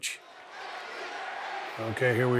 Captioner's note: audience cheering